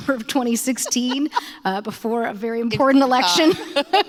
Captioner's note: laughter